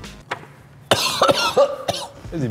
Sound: gagging

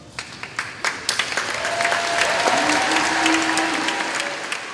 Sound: clapping

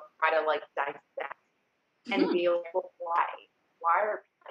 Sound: voice cuts out

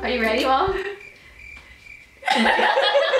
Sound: crickets chirping; laughing

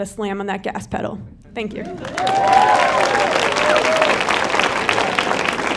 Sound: audience clapping

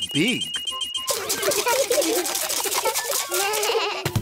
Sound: all laugh

